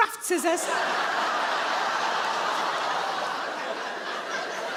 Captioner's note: audience laughing